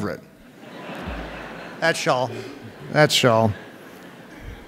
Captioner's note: audience laughs